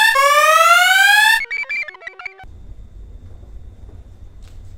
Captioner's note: computer chirps